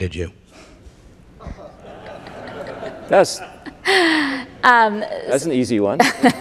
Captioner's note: audience laughing